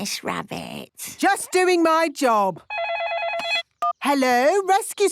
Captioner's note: phone ringing